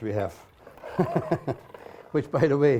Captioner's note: laughs